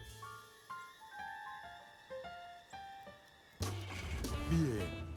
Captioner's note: engine starts